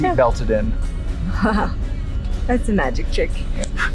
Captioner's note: laughs